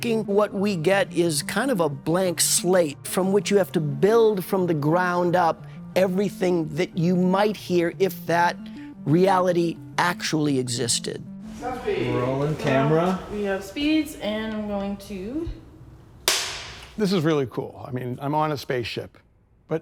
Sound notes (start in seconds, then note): 16.2 slate clap